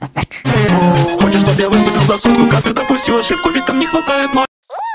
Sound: phone rings

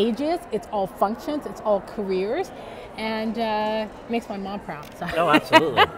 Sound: laughs

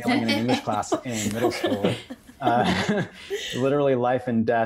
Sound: all laugh

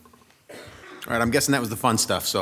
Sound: attendee coughing

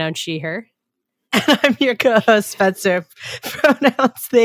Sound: laughing

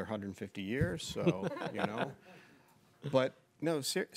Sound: people laughing

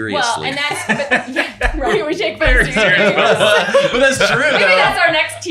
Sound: everyone laughing

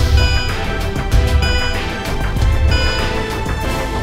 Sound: dramatic music; dinging

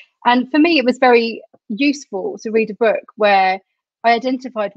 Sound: none

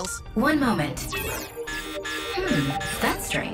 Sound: digital beeping

